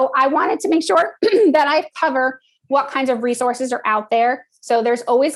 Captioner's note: cough